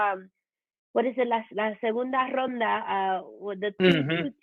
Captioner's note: Spanish language